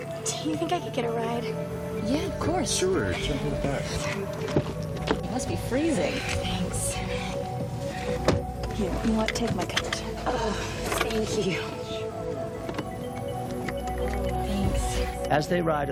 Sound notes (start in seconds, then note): 12.1 car door thuds; 15.6 mysterious music